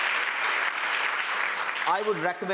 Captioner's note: cheers and applause